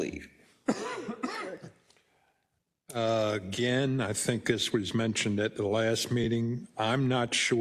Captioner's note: cough